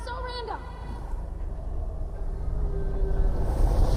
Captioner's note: wind howling; rumbling, creature growling